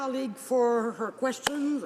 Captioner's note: speaking French